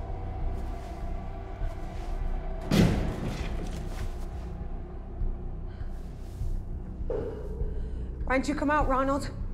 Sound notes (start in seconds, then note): 4.4 echoing